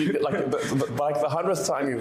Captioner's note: laughter